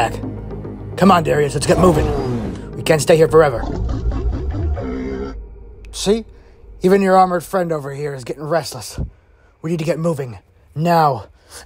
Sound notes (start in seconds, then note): 3.6 bumpy sounds